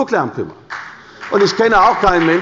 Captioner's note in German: Beifall bei der CDU und dem BÜNDNIS 90/DIE GRÜNEN